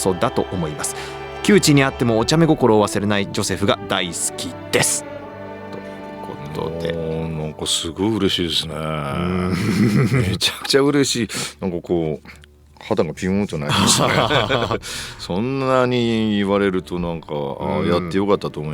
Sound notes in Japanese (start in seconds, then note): 8.7 うめき声; 13.7 鼻息